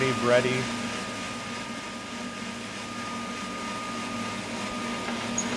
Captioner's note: roaster machine whirring